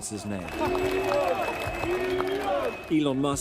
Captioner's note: chanting